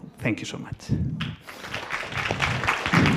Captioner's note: audience applauds